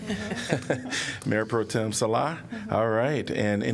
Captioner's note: laughter